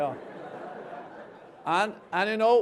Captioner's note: laughter